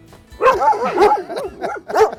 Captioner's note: laughing; barking